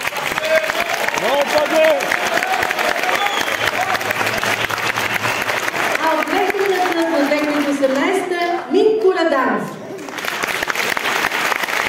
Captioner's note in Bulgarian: аплодисменти